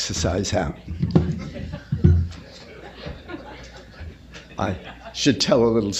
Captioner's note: laughter